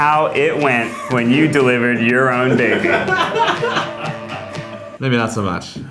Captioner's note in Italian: risate fuori campo